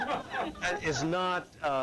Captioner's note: laughter